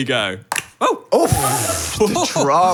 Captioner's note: ball popping